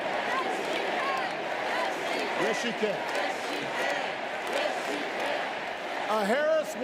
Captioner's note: crowd chanting